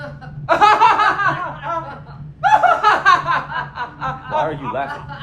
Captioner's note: Isaac laughing loudly; Maude laughing